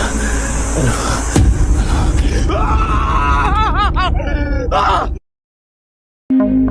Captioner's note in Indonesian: tertawa